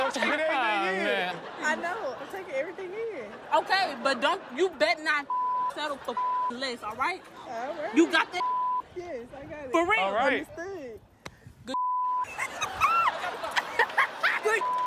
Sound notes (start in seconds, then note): 12.2 laughter